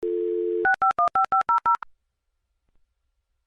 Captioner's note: modem dialing